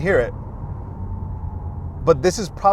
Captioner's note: car whooshing